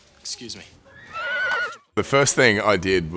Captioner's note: horse neighs